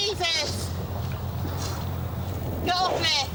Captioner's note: boat droning